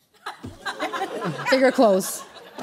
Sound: laughter

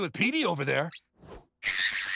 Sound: screeching

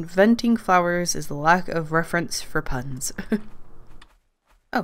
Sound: laughs

